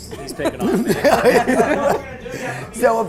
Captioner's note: laughter